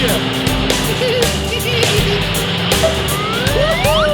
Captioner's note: giggling